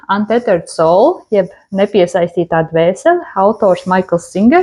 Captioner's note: in Latvian